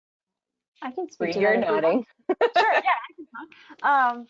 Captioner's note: laughs